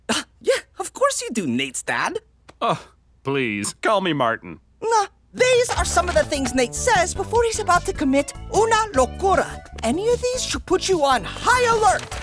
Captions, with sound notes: Yeah, of course you do, Nate's dad. Uh, please, call me Martin. Nah. These are some of the things Nate says before he's about to commit [speaking foreign] Any of these should put you on high alert.